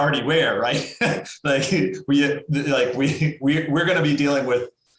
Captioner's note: laughs